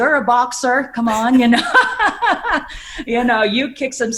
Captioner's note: laughs